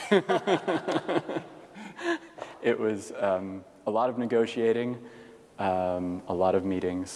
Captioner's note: laughter